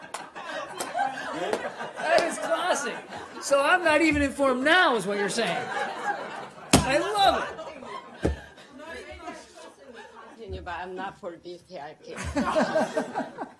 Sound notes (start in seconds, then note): 2.2 laughter; 12.1 laughter